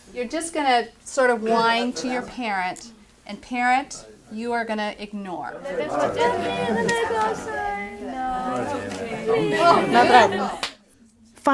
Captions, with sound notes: - You're just gonna sorta whine to your parent and parent, you are going to ignore. (background chatter)